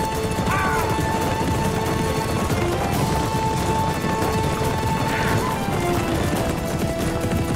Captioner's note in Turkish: Müzik - Aksiyon; At nalı sesleri